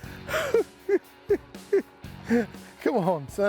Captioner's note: chuckling